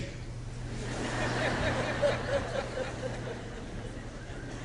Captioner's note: laughter